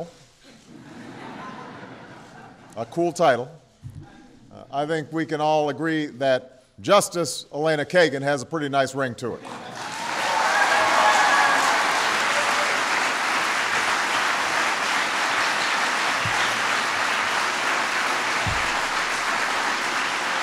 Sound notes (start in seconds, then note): 0.5 laughter; 13.7 applause